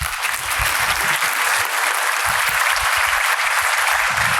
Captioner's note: audience applause